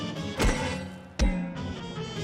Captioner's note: clanging